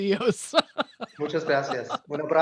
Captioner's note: laughter